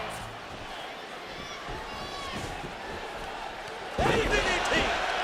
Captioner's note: audience chattering